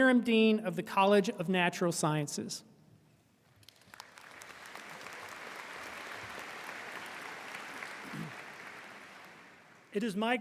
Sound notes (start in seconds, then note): 3.6 audience applauding